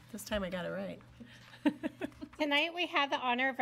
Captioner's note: chuckles